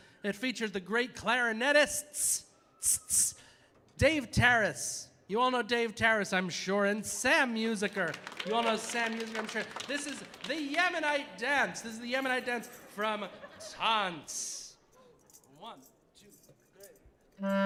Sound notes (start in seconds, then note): 7.9 audience applauding